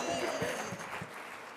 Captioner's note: audience applauding